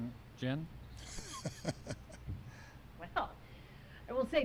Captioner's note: laughs